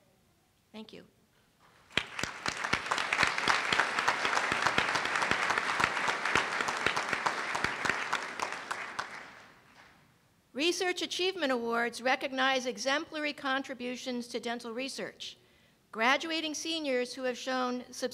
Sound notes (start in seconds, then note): 2.6 applause